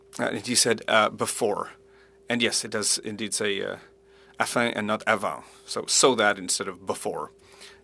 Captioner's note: speaking French